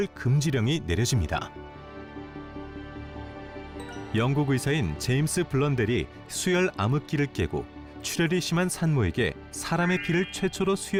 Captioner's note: voiceover